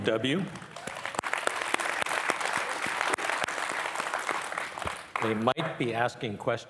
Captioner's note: and participants applauding